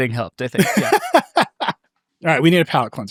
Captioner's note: laughs